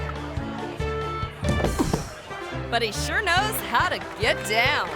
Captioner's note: person thuds; people clapping